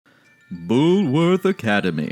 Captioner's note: Sarcastic Infomercial Voice